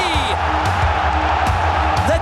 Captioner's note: crowd cheering